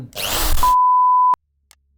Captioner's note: drill recoils